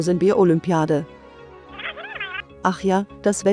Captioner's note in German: Zwitscherndes Vorspulen